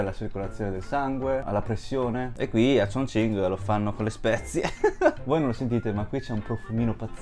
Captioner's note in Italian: risate